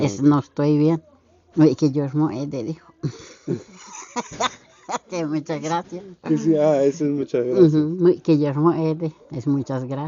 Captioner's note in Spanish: risas